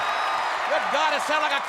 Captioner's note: audience cheers